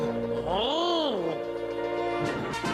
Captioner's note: speaking in foreign language